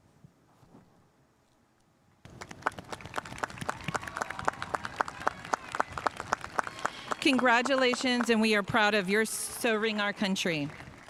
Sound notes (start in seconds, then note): 2.2 spectators applauding